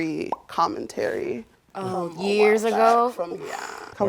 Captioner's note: sighs